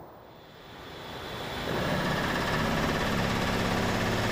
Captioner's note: generator cranking